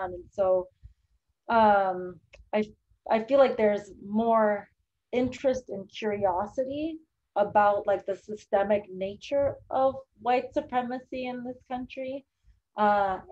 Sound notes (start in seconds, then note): none